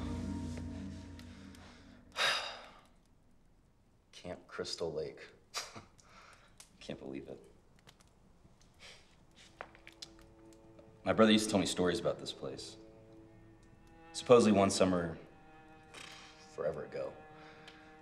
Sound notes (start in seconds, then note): 6.0 laughs